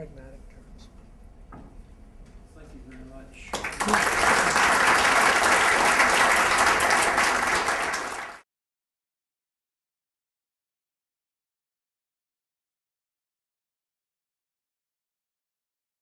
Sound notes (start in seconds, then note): 3.4 applause